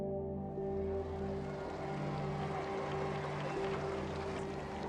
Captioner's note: crowds cheering